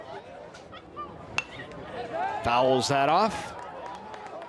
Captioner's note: bat dings